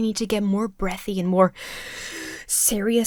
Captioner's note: inhales sharply